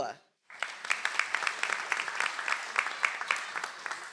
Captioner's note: audience applauds